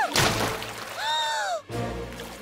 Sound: gasping

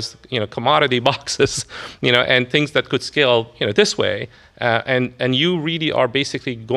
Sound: laughs

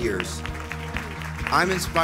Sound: audience applauds

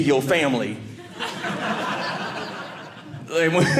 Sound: audience laughing

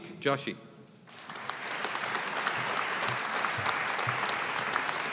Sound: audience applauding

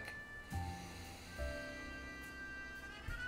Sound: loud inhale

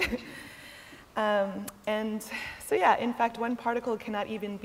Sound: laughter

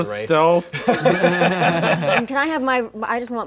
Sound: laughing

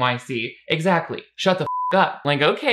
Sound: beep

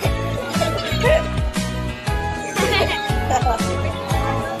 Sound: laughing

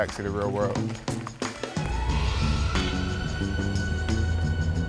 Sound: car engine humming

